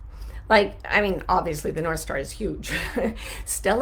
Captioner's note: laughs